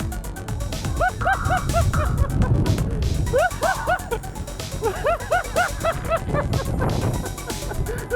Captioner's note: laugh and euphoric shouts in the background